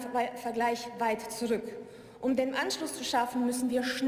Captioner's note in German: none